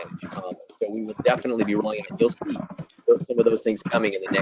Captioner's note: static